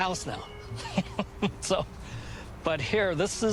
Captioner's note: chuckling